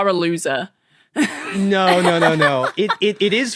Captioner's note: laugh